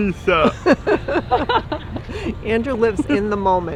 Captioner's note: people laughing